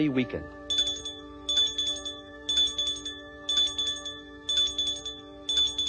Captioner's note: ringing